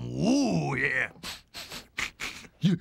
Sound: sniffing

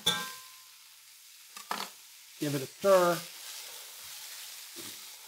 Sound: sizzling

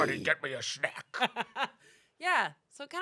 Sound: laughs

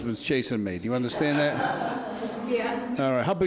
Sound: audience laughs

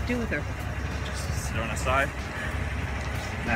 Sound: chuckles

